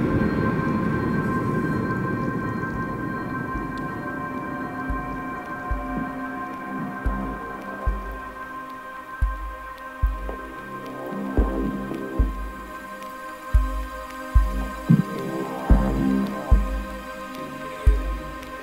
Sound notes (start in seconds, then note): 2.2 whoosh; 7.0 heartbeat sounds